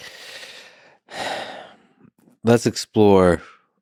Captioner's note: Lex sighs